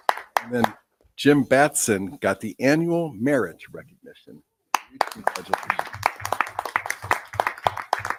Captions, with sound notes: And then Jim Batson got the annual merit recognition. (people applauding) Congratulations.